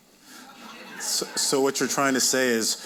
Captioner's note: audience laughing